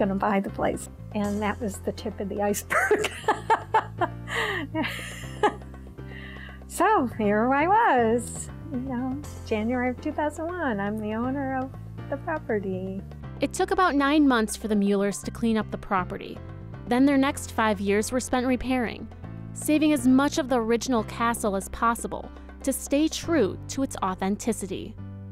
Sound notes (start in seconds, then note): 2.8 laughs